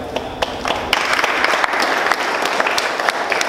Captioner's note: applause